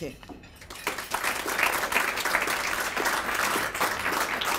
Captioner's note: applause